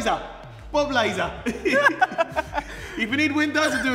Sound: laughs

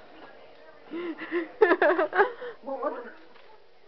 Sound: laughing

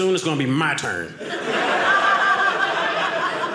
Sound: audience laughing

